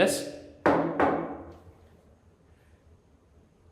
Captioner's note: knocks